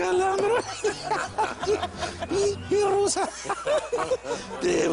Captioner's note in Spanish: Risas